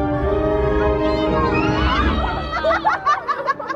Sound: family laughs

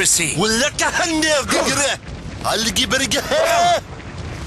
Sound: arabic babble

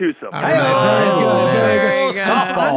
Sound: cheering

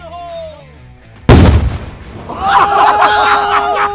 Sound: explosion; yelling

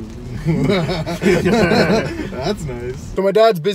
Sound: laughing

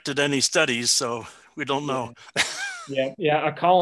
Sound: chuckling

